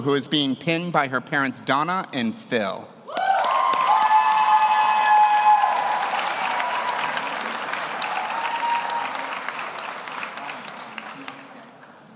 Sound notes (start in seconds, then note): 3.1 audience cheers; 3.1 audience applauds